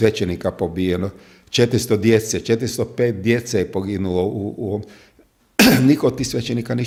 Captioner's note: coughs